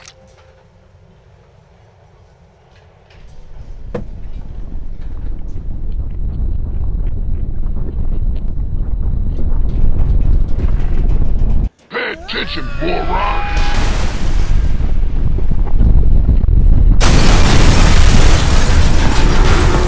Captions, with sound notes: *rUMBLES* Pay attention, moron! **more crashing and rumbling** *Explosion*